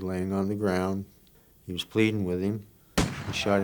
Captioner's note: gunshot